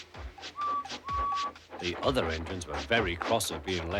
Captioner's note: tooting